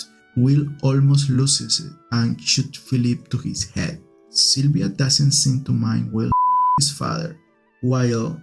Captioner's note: beep